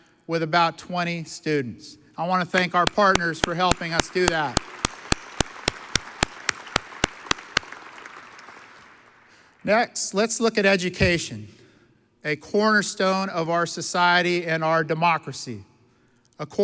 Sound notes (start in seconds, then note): 3.2 claps; 4.4 audience applauds